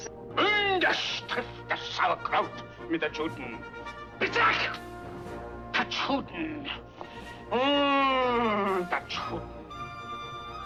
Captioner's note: faux-German speech